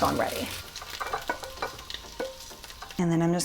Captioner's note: clattering